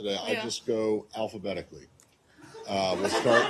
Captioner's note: laughter